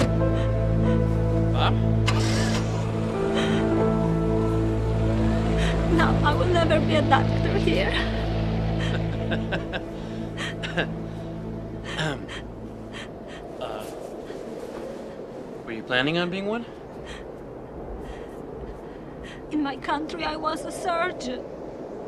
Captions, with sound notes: Bob? Now I will never be a doctor here. [CARTER CHUCKLING] [CLEARS THROAT] Were you planning on being one? In my country, I was a surgeon.